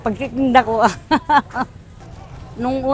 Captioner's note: laughs